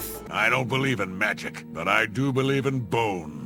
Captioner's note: none